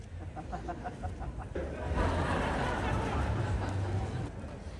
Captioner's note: laughter